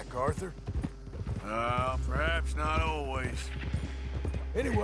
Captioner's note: grunts